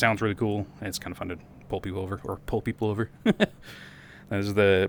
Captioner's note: laugh